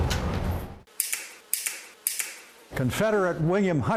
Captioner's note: guns clicking